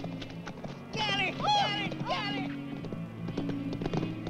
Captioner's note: yelling